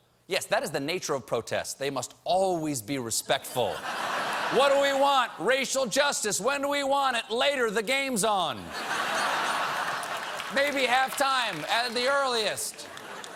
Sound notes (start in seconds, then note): 4.6 laughter